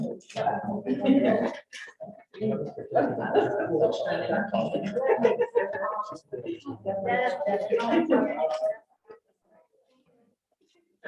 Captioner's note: all chattering